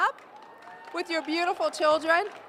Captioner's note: cheering